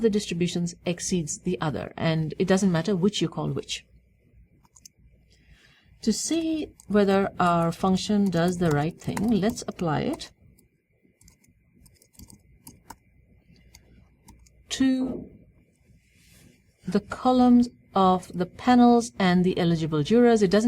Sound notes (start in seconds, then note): 13.6 pause